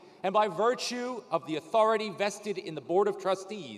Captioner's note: none